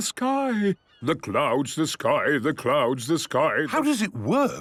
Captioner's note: sing-sing voice